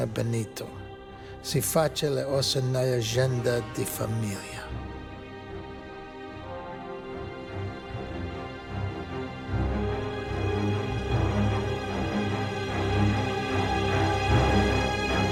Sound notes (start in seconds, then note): 1.7 speaking in Italian continues; 5.6 tense music